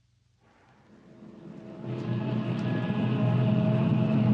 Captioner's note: car engine rumbling